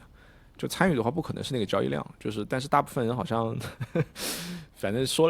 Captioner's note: laughter